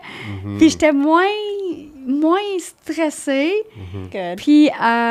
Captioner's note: in french